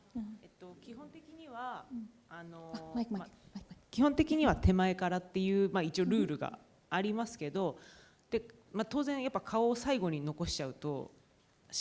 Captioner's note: speaking japanese